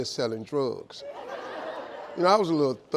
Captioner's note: audience laughing